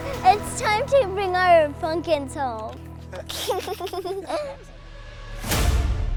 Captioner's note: laughs; dramatic music